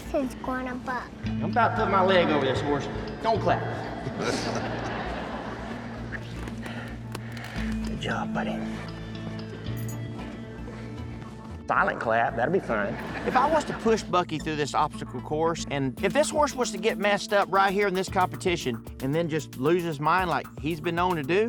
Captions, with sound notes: SCARED THE HORSE'S GONNA BUCK. I'M ABOUT TO PUT MY LEG OVER THIS HORSE, DON'T CLAP. [CROWD LAUGHS] [WHISPERS] GOOD JOB, BUDDY. SILENT CLAP, THAT'D BE ALRIGHT! [CROWD LAUGHS] IF I WAS TO PUSH BUCKY THROUGH THIS OBSTACLE COURSE, AND IF THIS HORSE WAS TO GET MESSED UP RIGHT HERE IN THIS COMPETITION AND THEN JUST LOSE HIS MIND LIKE HE HAS BEEN